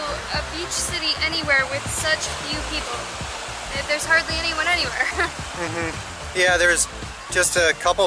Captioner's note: laughter